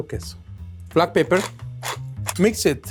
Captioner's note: pepper mill grating